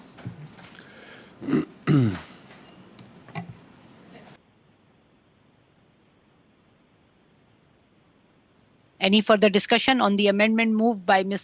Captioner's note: speaking French